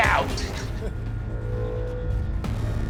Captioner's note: laughter